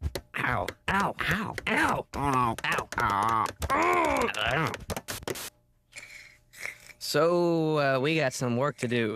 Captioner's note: moaning with every hit